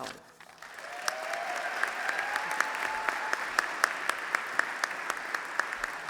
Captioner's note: applause